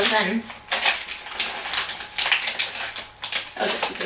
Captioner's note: crinkling packaging